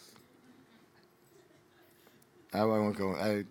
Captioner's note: audience laughing